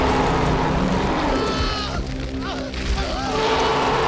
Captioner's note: shark roaring; Eric screaming; shark roaring